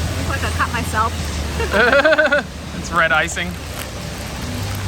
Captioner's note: laughs